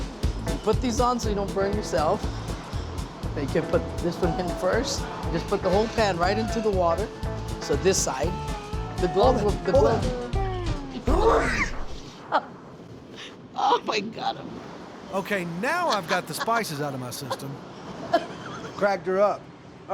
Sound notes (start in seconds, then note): 11.0 coughing hard; 12.0 chef laughs; 18.2 chef laughs